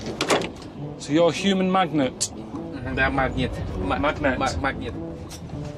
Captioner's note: speaks Russian